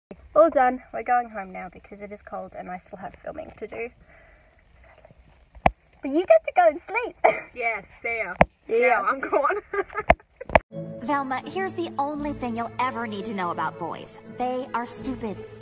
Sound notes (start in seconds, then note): 9.1 laughing